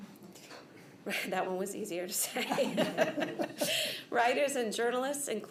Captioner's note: laughter